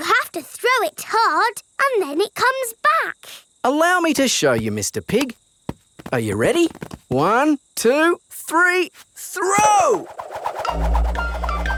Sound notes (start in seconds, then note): none